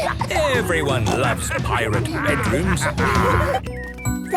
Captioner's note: laughter